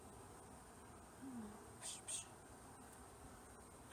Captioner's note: pish-pish, sound of frustration